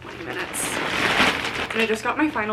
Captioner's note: package rustling